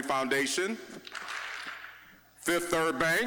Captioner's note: audience clapping once